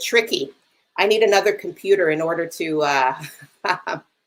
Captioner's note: laughs